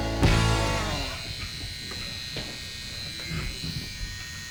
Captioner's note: tattoo gun buzzing